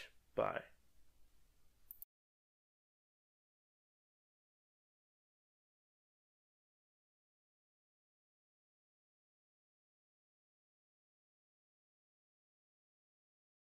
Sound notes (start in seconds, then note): 1.1 short Pause